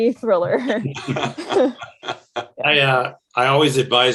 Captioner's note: everyone chuckling